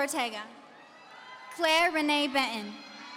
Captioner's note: audience cheering